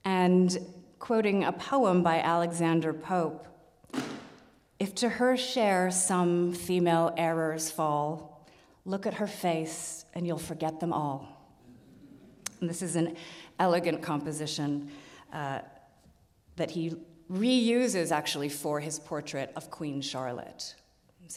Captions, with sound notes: And quoting a poem by Alexander Pope, "If to her share some female errors fall, look at her face and you'll forget them all." (audience laughs) And this is an elegant composition that he reuses actually for his portrait of Queen Charlotte.